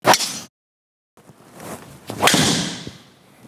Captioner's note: golf ball hit